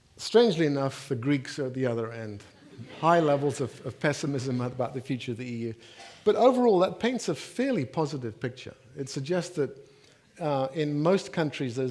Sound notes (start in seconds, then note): 2.4 audience laughing